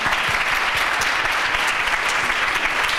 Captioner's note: applause